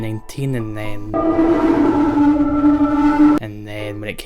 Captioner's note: distortion